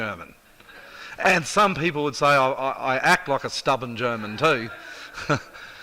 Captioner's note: chuckles